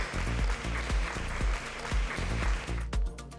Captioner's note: clapping